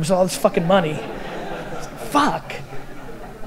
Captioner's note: audience laughter